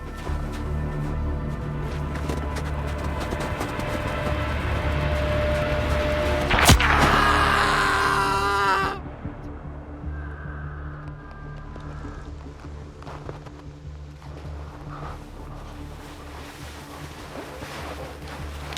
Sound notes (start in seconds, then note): 6.5 gunshot; 6.8 man screaming